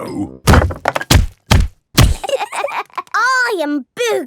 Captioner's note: banging